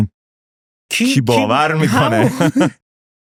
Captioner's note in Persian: خنده